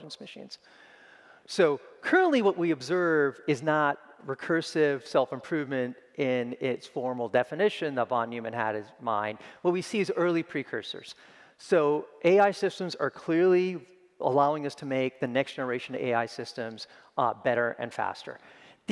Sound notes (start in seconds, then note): none